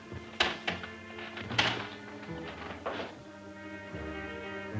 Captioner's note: chair creaks